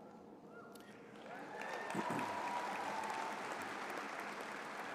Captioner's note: applause